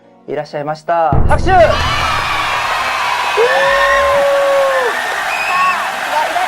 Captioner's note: applause